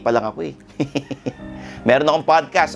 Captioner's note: laughing